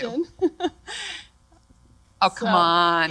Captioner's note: laughter